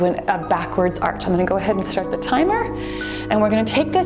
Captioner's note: timer beeps